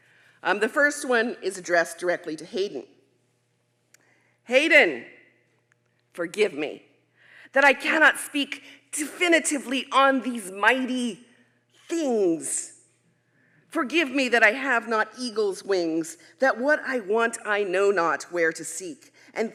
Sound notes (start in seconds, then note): none